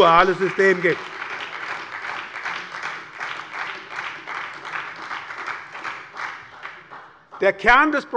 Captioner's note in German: Beifall bei der SPD